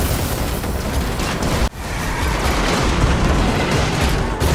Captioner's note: crashing